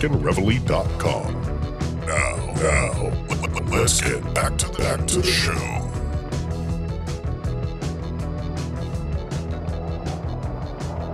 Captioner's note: australian Accent; distopian Soundtrack